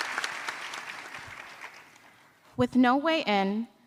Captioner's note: applause